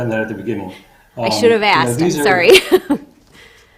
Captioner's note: chuckling